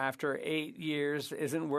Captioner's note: speaking French